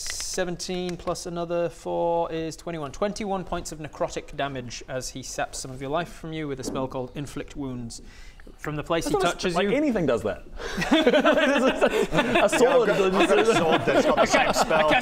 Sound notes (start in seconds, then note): 10.6 technically correct giggles